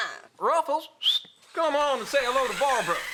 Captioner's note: whistles